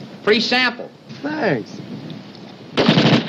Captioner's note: gunshots